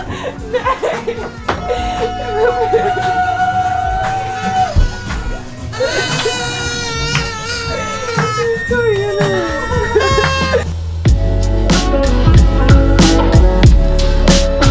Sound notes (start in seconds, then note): 5.6 party horn